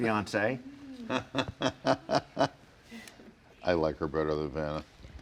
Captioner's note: laughing